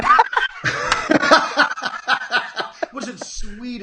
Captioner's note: laughing